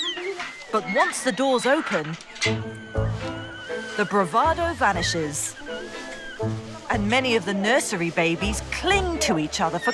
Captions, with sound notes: But once the doors open, (metal clunking)_ the bravado vanishes. And many of the nursery babies cling to each other